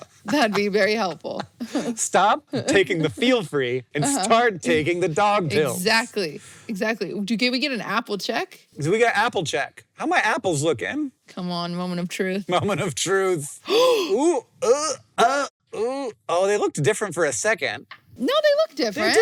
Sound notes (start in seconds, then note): 13.7 gasps; 14.6 groans